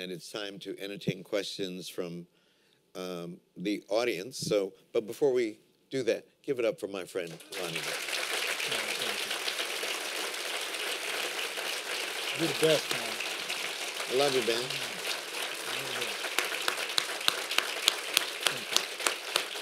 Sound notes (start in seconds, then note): 7.9 applause; 15.2 applause